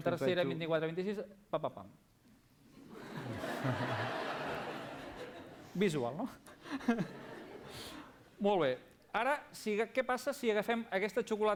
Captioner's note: non-english speech